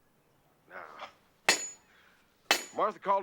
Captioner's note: banging